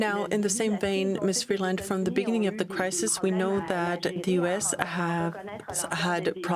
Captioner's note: speaking French